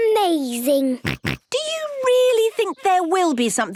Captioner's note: snorts